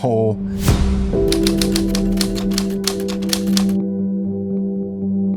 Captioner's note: typewriter clicking